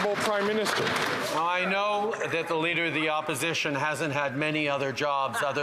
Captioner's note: some Applause